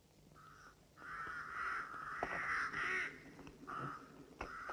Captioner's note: birds cawing